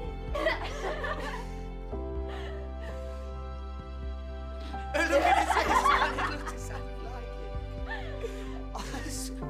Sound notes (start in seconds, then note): 0.3 laughter; 4.9 laughter